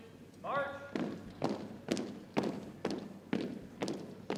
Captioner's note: boots thumping